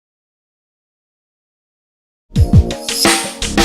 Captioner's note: silence